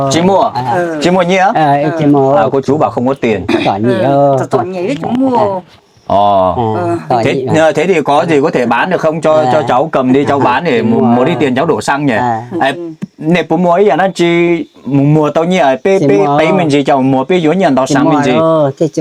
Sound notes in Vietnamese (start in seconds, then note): 3.4 hắng giọng